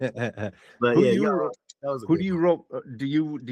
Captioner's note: laughing